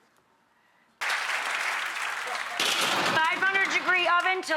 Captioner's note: audience applause